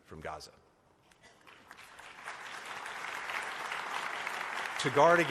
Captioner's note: applause